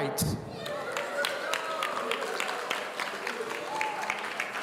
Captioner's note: audience applauding